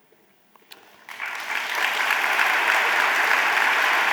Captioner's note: audience applauding